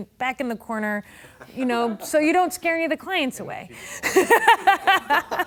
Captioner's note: laughing